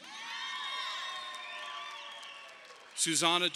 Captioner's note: audience applauding